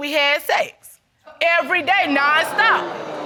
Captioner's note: audience exclaiming; stammering